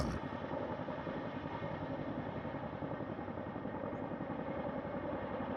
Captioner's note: helicopter blades whirring